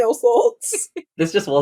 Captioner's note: laughs